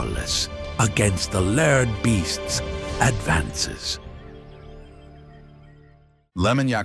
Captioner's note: david attenborough voice